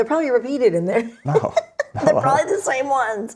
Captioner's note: laughs